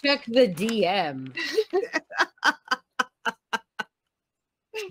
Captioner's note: laughing